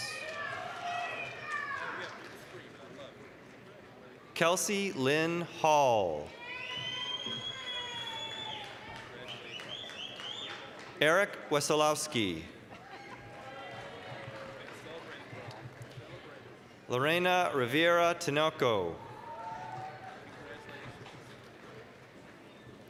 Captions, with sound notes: (applause, cheering) Kelsey Lynne Hall. (applause, cheering) Eric Wesolowski. (applause, cheering) Lorena Rivera Tinoco. (applause)